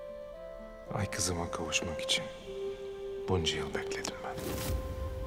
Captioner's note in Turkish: Müzik - Duygusal; Turgut dış ses